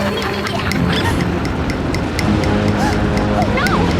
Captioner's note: laughter; gasp